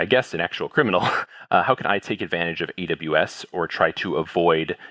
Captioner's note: laugh